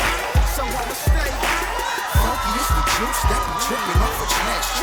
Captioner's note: crowd cheering